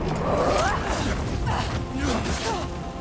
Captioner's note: grunting